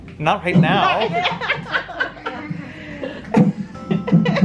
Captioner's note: laughs